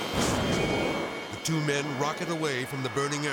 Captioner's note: seats whooshing; ejection exploding